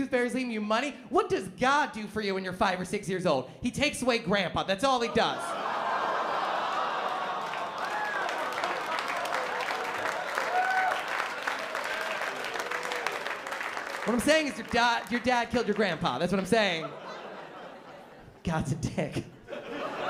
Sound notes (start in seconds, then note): 5.1 laughter; 16.5 laughter